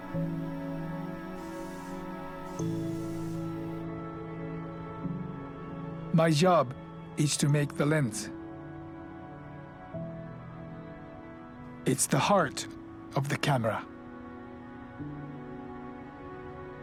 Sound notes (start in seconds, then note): 6.3 voiceover